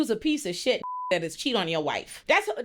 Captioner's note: beep